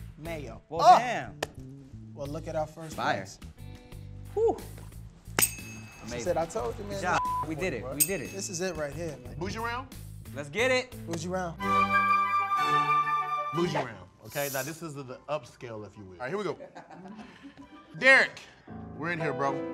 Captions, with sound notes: Ah! - Well damn. - Well look at our first flex. - Fire. Hoo! Amazing. - She said, I told you man (beep) - Good job, we did it. We did it. - This is it right here. - Bougie round? - Let's get it. - Bougie round. (classical music) - Bougie round, okay now this is the upscale, if you will. All right, here we go. Derek, we're in here bro.